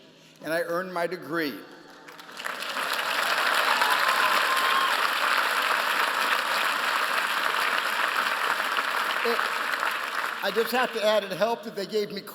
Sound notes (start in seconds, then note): 2.1 applause